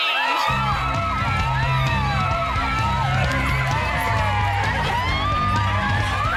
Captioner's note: women cheering; upbeat music